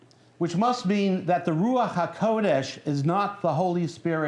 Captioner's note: non-english speech